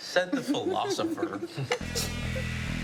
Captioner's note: all laughing; upbeat music